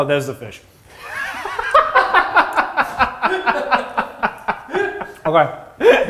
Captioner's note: crack up